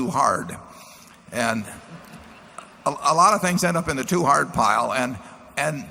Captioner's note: laughter